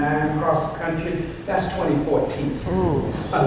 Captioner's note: dismayed groans